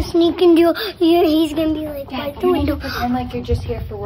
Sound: murmurs

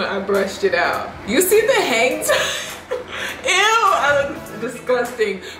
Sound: laughs

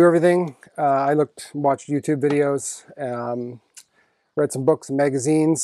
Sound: tongue clicks

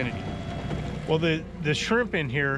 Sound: winch motor running

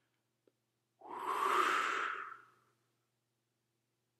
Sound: breath whooshing

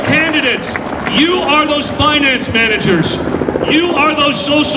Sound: audience cheers

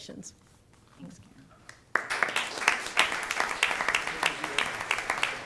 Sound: applause

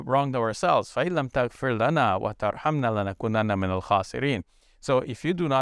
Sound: speaks in foreign language

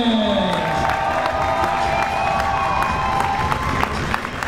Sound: crowd members cheering

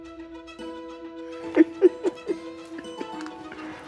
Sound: chuckles

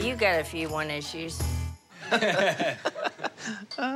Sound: laughs

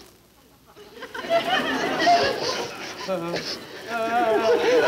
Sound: audience laughing; Joan sniffling; Joe and Harry sobbing; audience laughing

